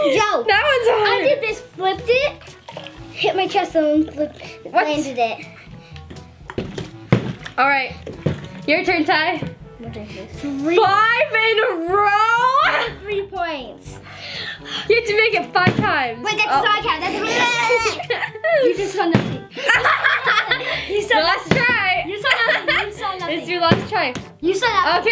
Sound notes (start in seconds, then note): 19.1 bottle landing; 19.5 laughing